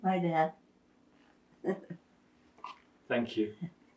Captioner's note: laughing